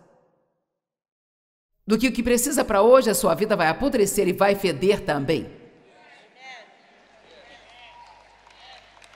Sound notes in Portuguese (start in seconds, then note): 5.8 audiência aplaude